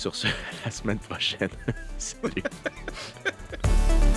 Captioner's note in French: rires